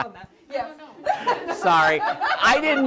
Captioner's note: laughter